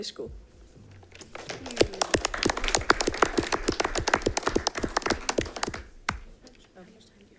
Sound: crowd applauding

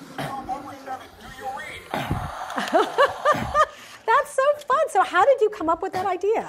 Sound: laughs

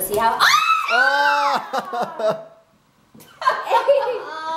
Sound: laughs

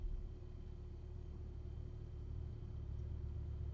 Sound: none

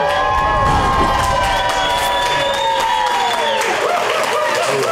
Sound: crowd cheering

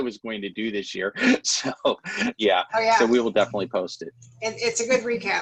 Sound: laughter

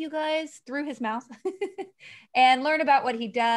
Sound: she laughs

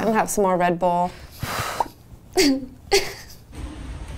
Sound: sighing

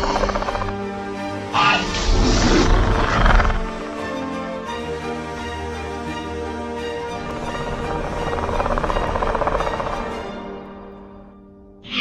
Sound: Hermes - Utah Raptor growls and squeals

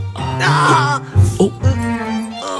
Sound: groans

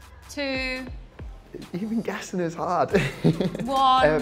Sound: chuckle

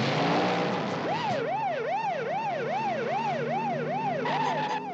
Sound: siren continues

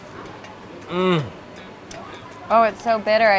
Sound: smacks lips

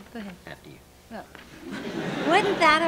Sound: laughter

